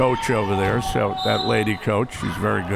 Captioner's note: whistle